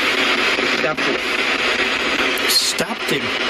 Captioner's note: Ovilus speaking